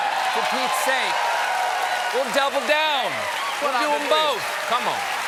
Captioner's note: cheers and applause